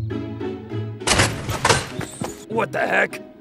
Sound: upbeat music; metals clanking

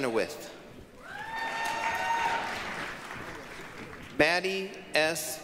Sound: applause, cheering

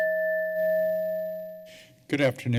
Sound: timer beeping

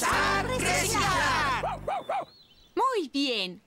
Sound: excited Barking

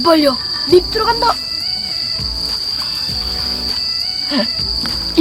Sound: hahahahahaha

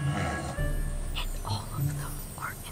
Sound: snoring

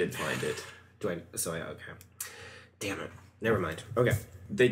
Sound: sighs

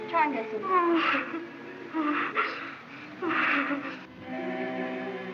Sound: sobbing Continues

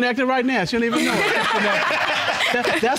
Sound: audience laugh

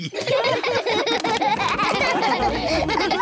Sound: all laughing

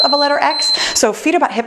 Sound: timer beeps

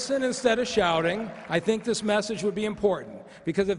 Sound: cheers and applause

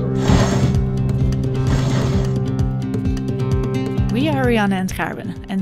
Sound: rigging line whirring

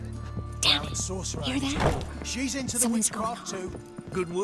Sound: whispering

